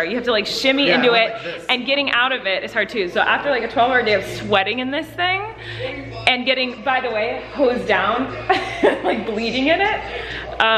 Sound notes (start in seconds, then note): 8.3 laughs